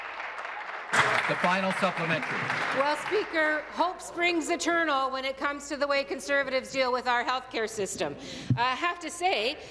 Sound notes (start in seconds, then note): 2.6 applause